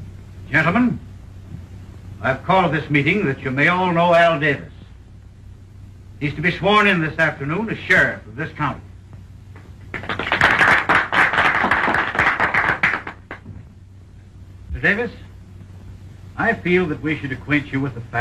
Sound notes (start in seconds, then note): 9.8 applause